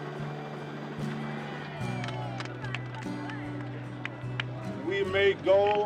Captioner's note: talking in background, applauding